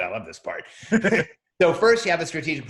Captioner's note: laughing